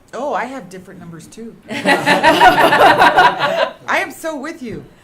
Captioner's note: laughter